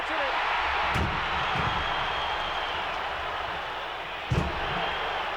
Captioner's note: audience cheering